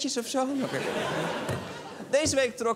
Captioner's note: laughter